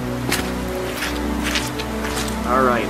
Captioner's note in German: Regen fällt; Schritte, die im Schlamm zermatschen